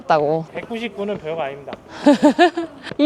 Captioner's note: steps